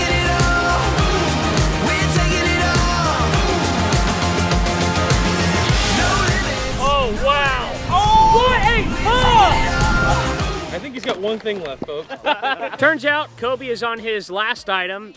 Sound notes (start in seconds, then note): 6.8 voiceover